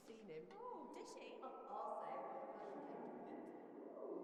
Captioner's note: chatter continues